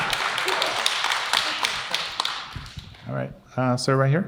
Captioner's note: audience cheer